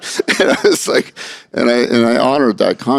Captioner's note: laughter